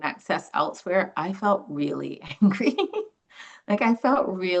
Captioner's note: laughs